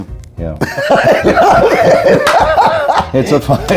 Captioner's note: laughing